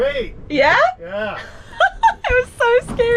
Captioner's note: laughing